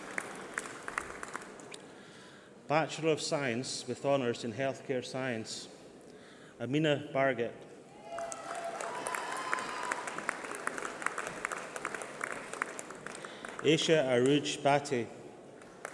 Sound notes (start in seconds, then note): 5.0 applause